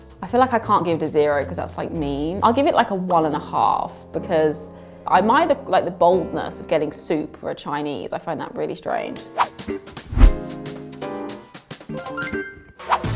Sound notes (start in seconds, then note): 10.0 whoosh